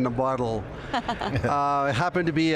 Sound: everyone laughing

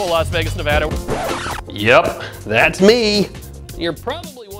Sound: record scratch

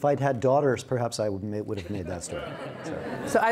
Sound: audience laughs

